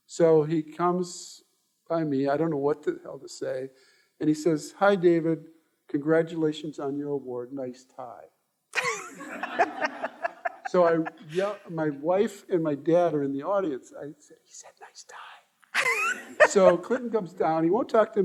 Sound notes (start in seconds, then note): 8.8 all laughing; 14.0 whispering